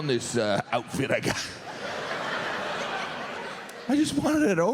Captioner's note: audience laughs